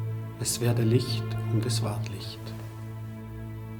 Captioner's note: speaking in German